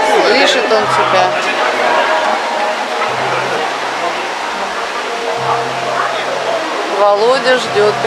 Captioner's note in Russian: шум листьев